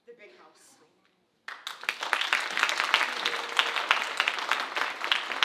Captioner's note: audience applauding